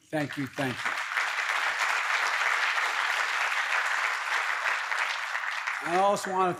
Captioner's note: applause